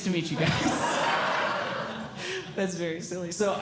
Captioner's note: audience Laughing